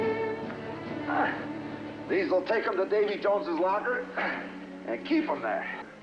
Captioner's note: grunts